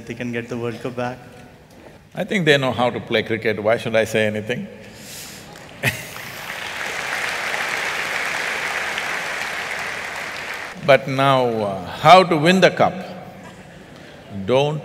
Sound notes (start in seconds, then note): 9.7 applause